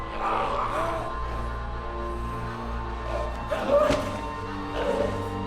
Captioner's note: groaning, gurgling